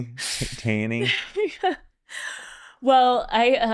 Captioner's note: laughs